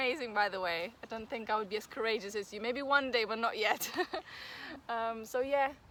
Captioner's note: risos